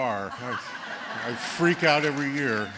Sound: laughter

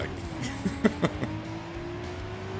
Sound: giggle

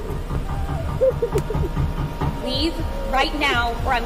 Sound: door knocks

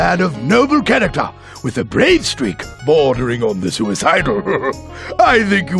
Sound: laughs

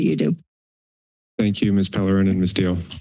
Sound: silence

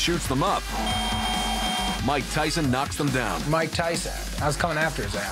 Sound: dinging

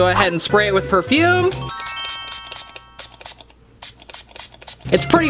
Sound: chimes tingle

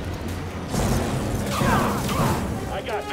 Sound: screams

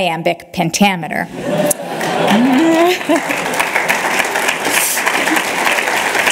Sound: applause

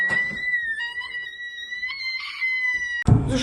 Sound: squeals

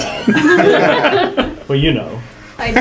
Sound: laugh

